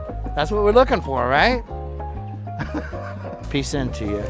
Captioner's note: laughs